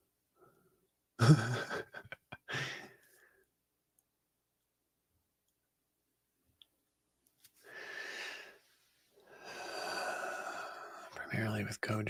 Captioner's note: laughing